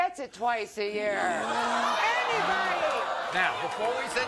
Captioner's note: audience jeering